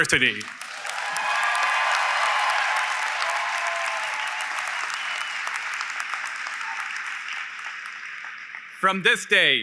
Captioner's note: applause & Cheering